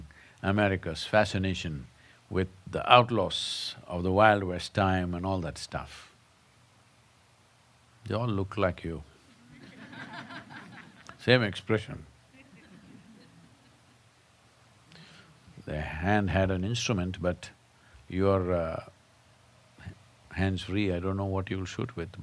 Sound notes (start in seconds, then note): 9.5 laughter